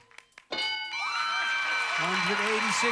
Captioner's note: audience applauding